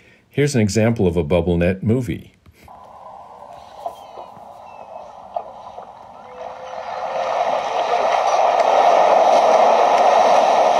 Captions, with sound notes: Here's an example of a bubble net movie. (water splashing) (birds squawking)